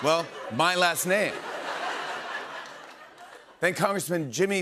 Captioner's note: laughter